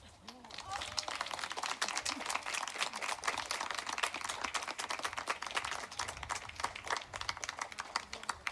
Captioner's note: aplodeja